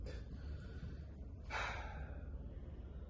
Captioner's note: sighs